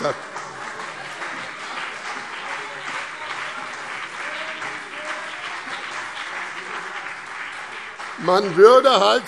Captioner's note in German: Beifall BÜNDNIS 90/DIE GRÜNEN und vereinzelt CDU - Zurufe SPD